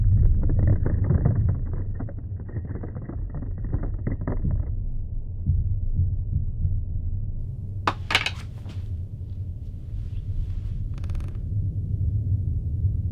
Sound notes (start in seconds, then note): 0.4 sounds of floor and rope creaking; 7.8 cross hits the floor with a thud; 10.0 floor creak